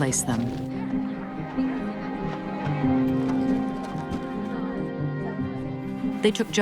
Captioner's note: machinery rumbling